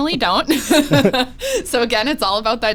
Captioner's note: both laughs